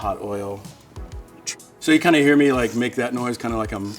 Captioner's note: sucking